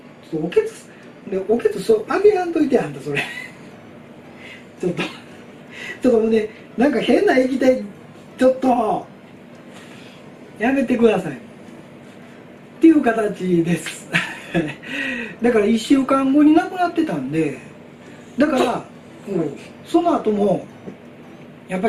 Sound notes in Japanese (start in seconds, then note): 3.1 笑い; 9.6 笑い; 14.1 笑い。意味不明